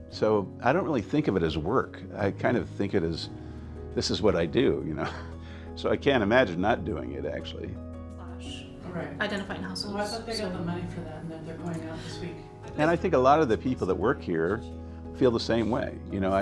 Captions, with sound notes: So I don't really think of it as work. I kind of think it is, this is what I do, so I can't imagine not doing it actually. - (speaks in foreign language) - And I think a lot of the people that work here feel the same way.